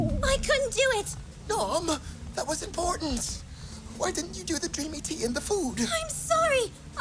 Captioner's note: worried